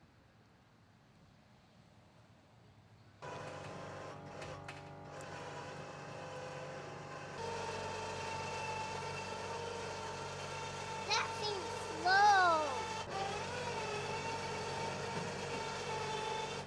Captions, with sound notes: (Winch whirs) - That thing's slow! (more winchy sounds)